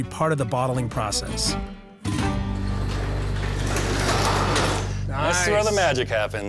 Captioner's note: garage door opening